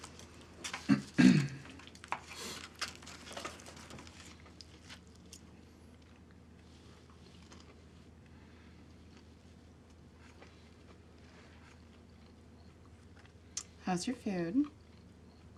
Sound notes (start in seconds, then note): 0.8 Isaac clears throat